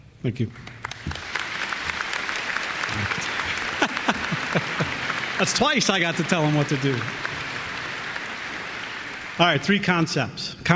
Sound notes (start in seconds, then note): 0.9 applause; 2.8 laughs